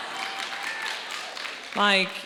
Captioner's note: audience laughing; audience cheering and applauding